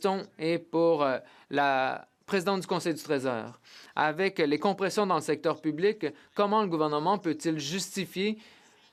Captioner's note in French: voix de l'interprète